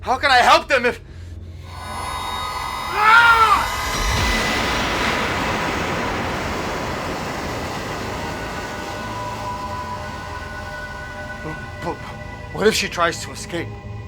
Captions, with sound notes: How can I help them if- (shouting) (dramatic music) What if she tries to escape?